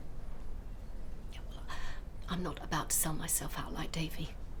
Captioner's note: none